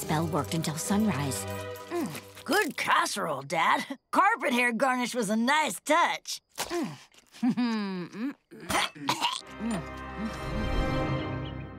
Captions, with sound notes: worked until sunrise. - Mmm. Good casserole, Dad. Carpet hair garnish was a nice touch. Mmm. [chuckles] - [gags] - Mmm, mmm.